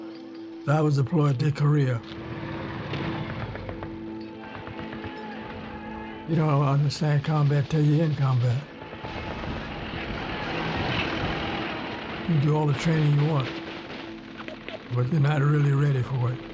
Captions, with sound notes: I was deployed to Korea. [vehicle engine humming] [distant artillery firing] You don't understand combat til you in combat. You can do all the training you want, but you're not really ready for it.